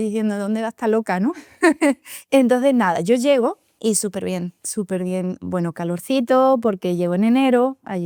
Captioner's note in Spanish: risas